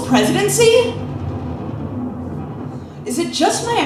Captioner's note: low rumbling